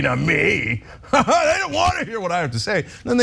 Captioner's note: laugh